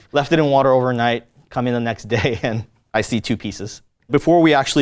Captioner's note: laughs